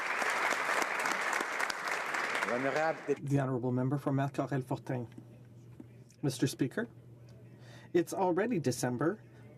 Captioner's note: applause